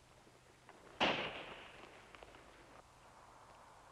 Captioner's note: gunshot